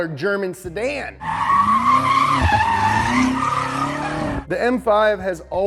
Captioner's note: tires squeal